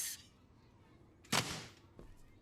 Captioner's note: refrigerator slams